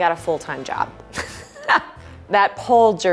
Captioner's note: laughing